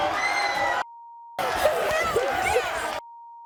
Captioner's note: sobbing